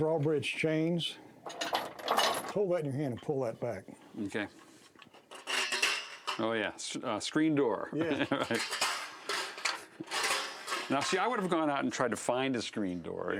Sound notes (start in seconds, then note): 4.9 metallic creaking